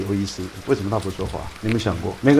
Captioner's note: rain